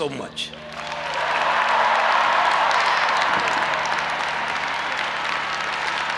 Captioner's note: audience applauding and cheering